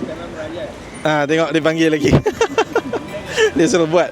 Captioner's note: laugh